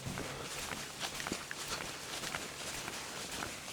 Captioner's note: walking and breathing sounds